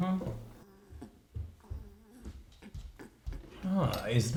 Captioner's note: footsteps